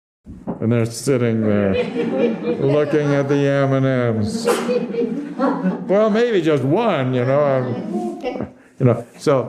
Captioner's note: laughter